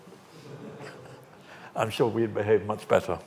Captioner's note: audience laughs